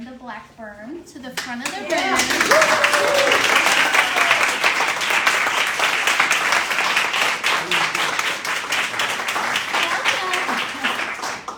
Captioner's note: cheering and applause